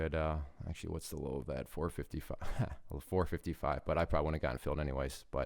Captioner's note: laughs